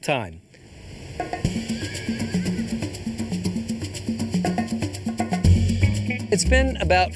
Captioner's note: bright music; horse neighs